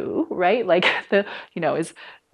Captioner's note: laughter